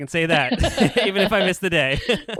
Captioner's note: laughs